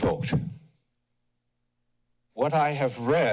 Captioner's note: pause